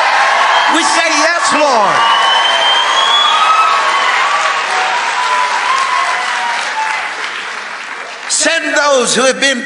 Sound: congregation cheering

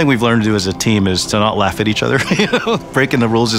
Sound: laughs

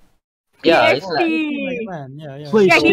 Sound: all cheering about PSP

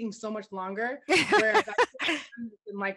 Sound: laughter

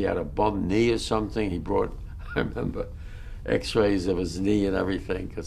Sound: laughs

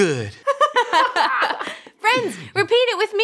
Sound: both laugh

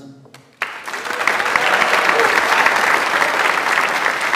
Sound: audience applauds

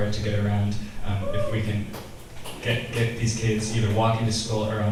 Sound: select audience members cheer

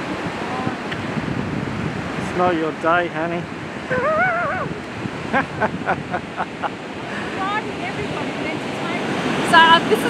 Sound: laughing

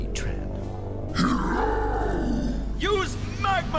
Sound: roars

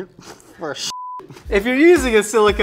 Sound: beep

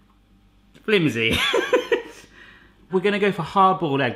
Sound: laughs

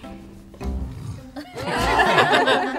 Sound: Otis makes a silly noise; laughter

